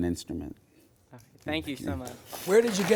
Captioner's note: audience applauds